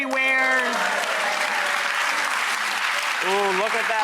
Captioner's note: audience applauding